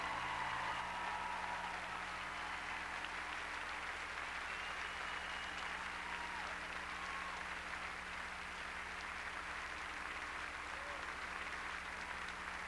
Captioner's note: crowd cheering